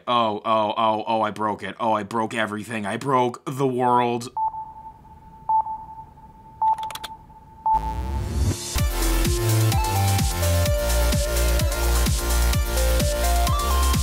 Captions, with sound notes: Oh oh oh oh, I broke it. Oh, I broke everything. I broke the world. (beeping) (keyboard clicking) (upbeat electronic music)